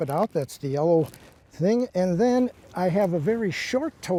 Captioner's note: none